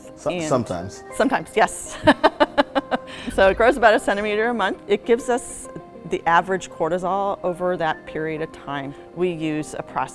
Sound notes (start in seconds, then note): 1.9 laughter